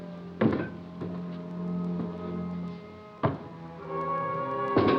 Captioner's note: bin clattering